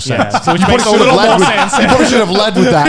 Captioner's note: laughing